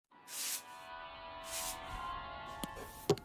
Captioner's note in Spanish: escoba barriendo